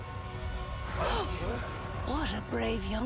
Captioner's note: gasping